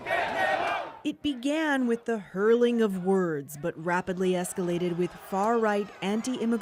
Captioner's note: chants